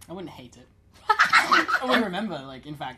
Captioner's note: laughter